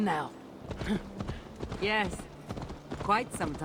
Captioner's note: laugh